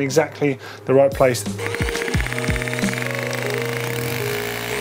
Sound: drilling

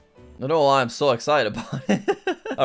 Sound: laughs

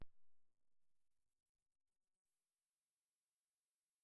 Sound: silence

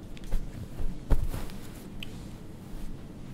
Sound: shifting around in bed

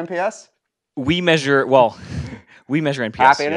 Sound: laugh

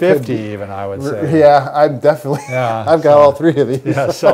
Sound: chuckles; laughs

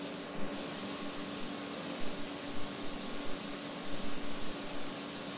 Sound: spray gun sound

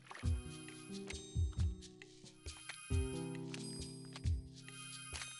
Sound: sparkly ringing

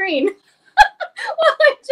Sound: laughs

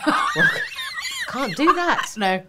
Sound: laughing

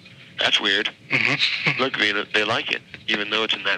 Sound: chuckles

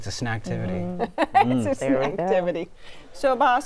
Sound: laughing

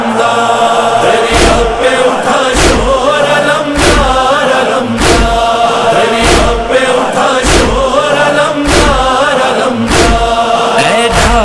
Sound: chanting

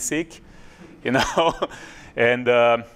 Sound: laugh

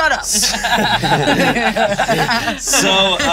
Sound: everyone laughing

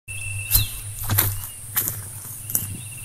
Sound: footsteps

